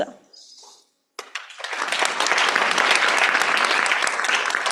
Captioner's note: applause